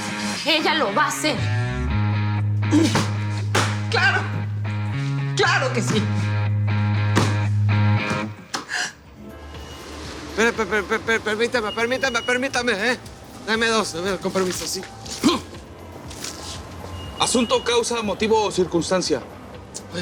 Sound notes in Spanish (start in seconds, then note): 8.3 Sollozos